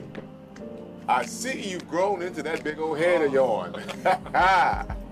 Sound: chuckles

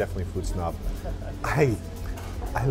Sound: laughs

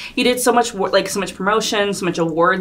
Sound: none

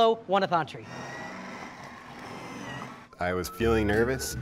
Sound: blender mixing

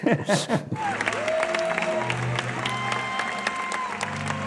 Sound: audience applauds

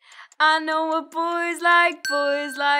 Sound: bell dinging

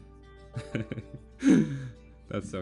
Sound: laugh

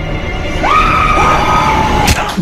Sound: shriek

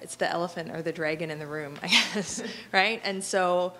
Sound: laughing

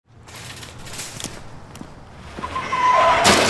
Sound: footsteps

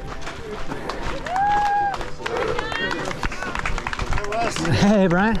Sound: crowd cheering and applauding

